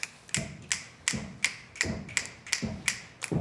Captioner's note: crowd stomping their feet